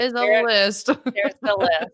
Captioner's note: laughing